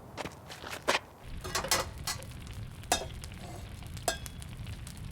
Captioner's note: fire crackling